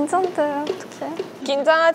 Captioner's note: foot tapping